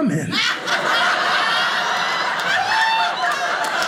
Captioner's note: audience laughing